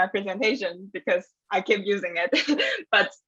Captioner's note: laughs